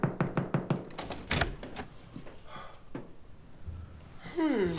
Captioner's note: door clattering